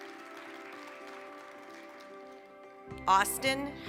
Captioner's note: applause